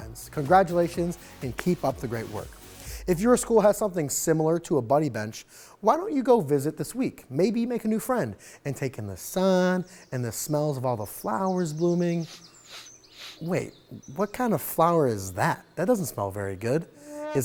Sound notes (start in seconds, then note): 9.4 birds chirping; 12.3 sniffs